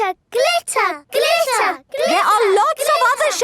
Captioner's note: chanting